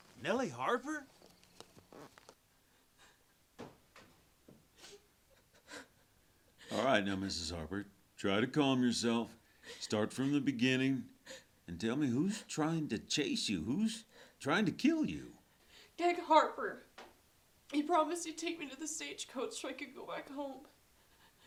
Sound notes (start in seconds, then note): 2.4 Nellie sobs